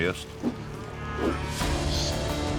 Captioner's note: rope whirls